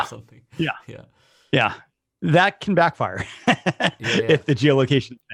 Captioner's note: laughs